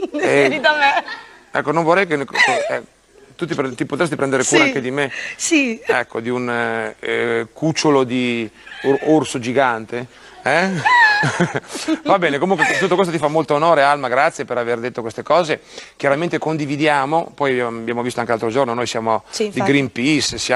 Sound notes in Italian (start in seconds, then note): 0.0 risate; 10.5 risate